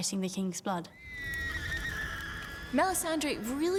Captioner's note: screaming